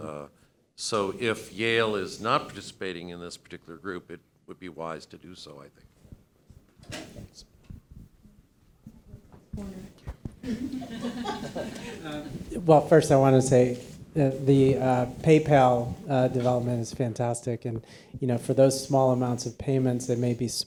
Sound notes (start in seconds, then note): 10.4 attendees laugh